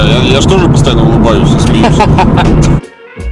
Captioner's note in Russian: смех